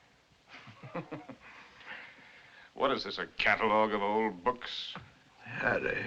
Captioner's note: chuckles